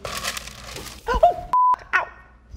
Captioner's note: beep